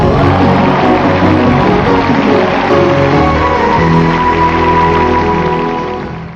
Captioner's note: bright music; crowd applauding and cheering